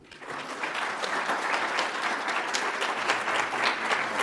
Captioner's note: audience applauds